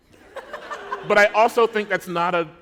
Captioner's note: laughter